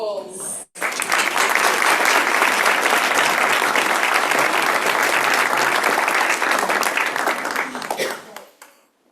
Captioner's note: applause